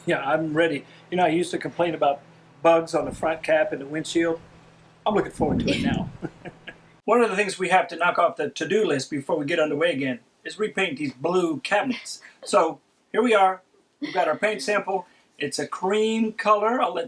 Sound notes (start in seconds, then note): 5.7 both laughing